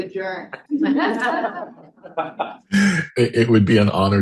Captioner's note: all chuckling